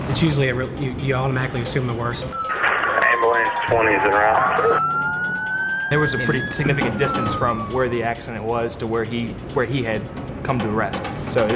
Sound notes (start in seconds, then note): 2.2 sirens; 3.9 voiceover